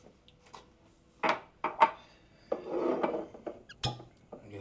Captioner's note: glasses thudding; cork popping